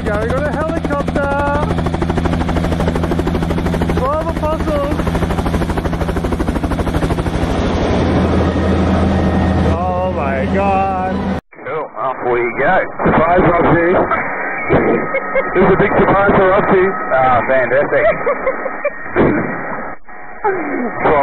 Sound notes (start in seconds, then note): 14.6 both laugh